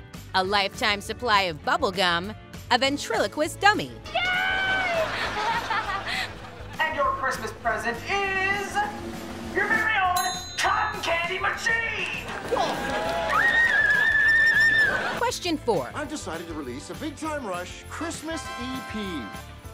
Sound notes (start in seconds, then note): 4.4 laughing; 12.5 screaming